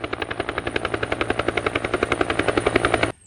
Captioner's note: more helicopter noises